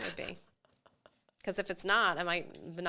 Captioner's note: chuckles